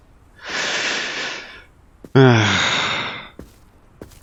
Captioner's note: sigh